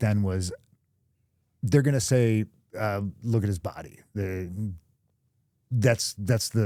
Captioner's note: none